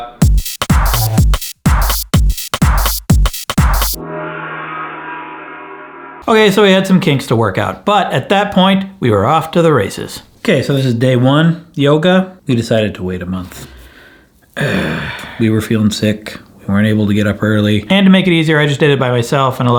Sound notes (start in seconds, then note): 0.1 intense club music; 3.9 gong echoes; 14.6 groans